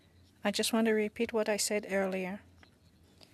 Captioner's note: speaking French